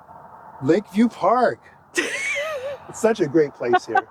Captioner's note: laughing